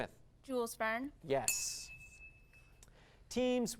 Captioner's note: ding